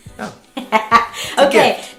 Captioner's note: laughing